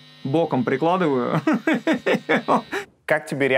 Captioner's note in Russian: смеется